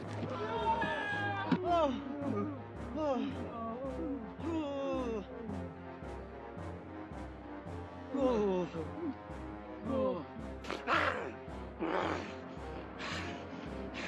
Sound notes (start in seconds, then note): 3.2 groaning; 10.6 snarling